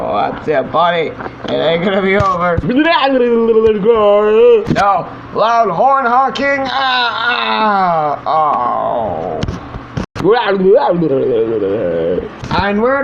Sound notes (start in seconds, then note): 9.5 groans